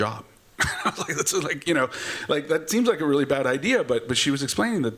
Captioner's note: chuckles